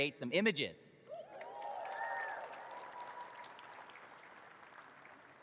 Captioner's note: audience cheers and claps